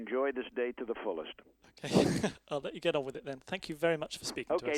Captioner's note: laughs